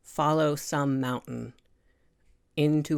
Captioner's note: none